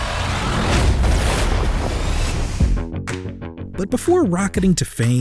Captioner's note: explosion